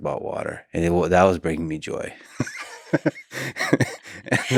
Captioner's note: laughs